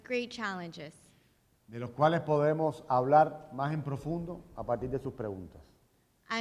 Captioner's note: speaking in Spanish